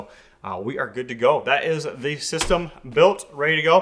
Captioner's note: hand tapping